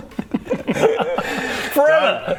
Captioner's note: assumes-he's-joking laughter